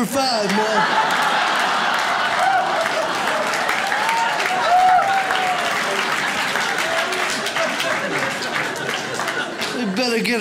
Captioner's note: audience laughs